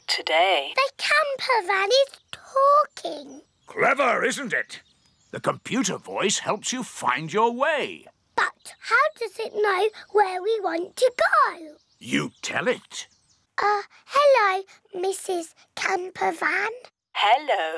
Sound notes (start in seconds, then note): none